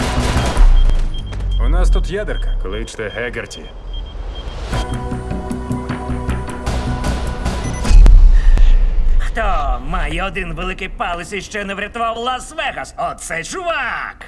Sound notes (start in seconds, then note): 0.0 beeping; 4.8 dramatic music continues; 7.7 powers down